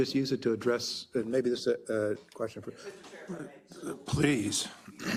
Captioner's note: cough